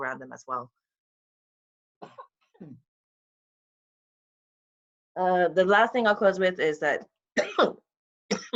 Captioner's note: coughs